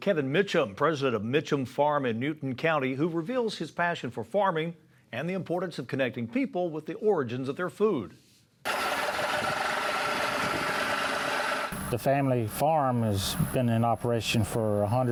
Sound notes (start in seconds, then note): 8.6 tractor Sound